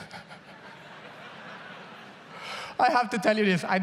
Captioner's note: laughs; audience laughs